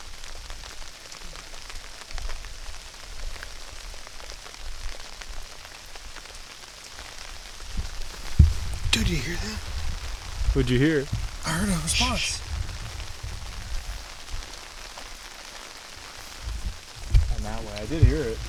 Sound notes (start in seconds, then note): 14.9 shushing